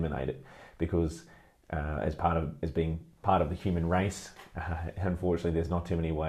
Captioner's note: laughs